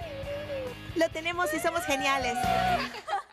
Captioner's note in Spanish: todas aclamando